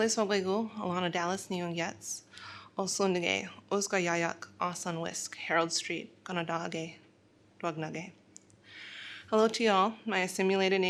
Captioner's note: speaking in foreign language